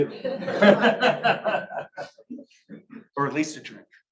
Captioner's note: audience laughs